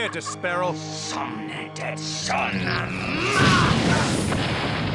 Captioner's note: chants magic spell; boom!